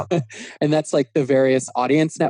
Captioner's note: laughing